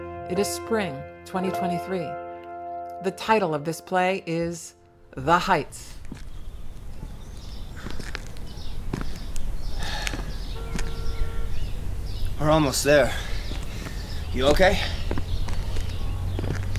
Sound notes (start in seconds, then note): 7.2 birds chirping, footsteps; 7.2 sighs